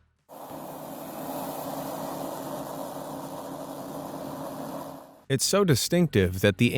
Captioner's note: snake making an "fffff" sound